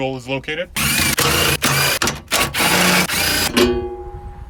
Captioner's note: drill torquing